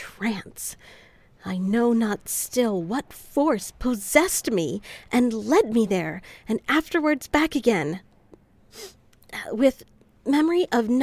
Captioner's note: sniffles